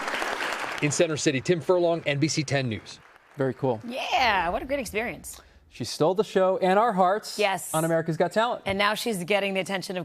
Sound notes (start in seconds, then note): 4.4 applause